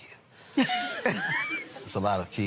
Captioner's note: laughter